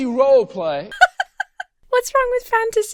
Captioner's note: laughs